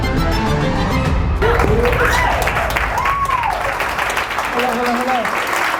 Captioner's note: audience applauding